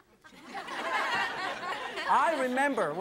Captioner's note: audience laughs